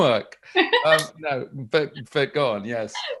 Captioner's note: laughs